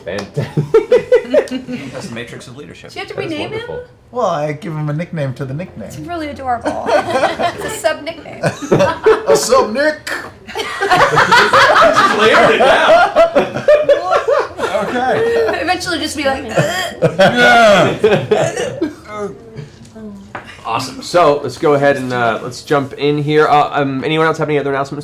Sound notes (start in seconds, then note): 10.4 laughter; 17.3 grunts